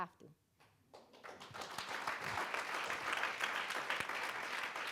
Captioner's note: audience applauding